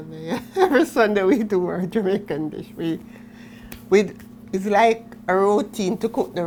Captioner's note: chuckles